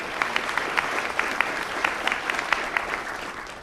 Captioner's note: applause